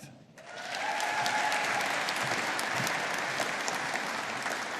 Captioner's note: audience applauding